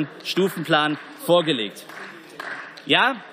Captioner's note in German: Beifall